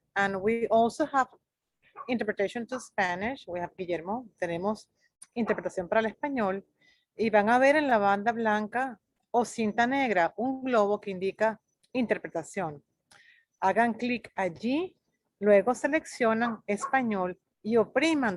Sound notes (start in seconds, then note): 3.6 speaks in foreign language